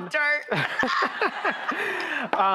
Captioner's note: laughing